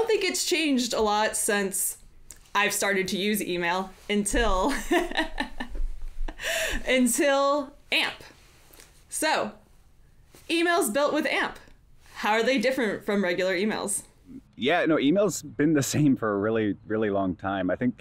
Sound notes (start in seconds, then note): 4.6 laughs